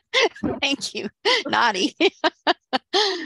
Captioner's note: laughs